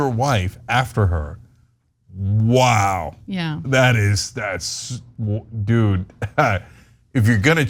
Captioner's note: laugh